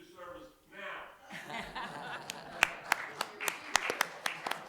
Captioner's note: applause